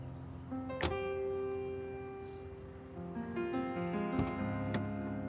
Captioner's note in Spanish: sonido al cerrar la puerta